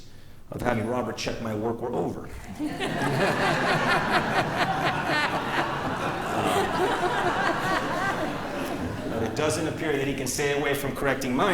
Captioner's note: laughter